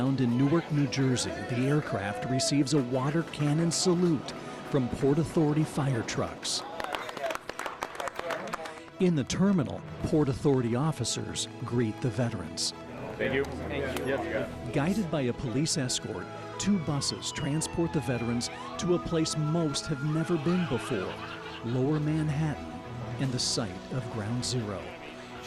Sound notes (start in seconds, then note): 10.7 clapping